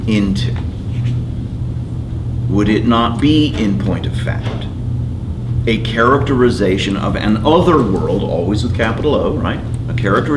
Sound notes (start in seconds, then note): none